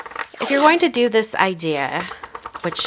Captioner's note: tape roll rattling